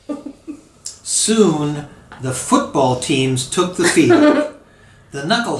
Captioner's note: giggle